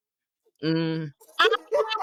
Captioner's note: laughing